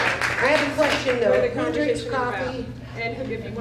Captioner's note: applause